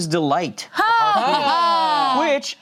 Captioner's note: cheer